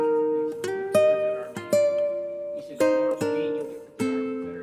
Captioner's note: chattering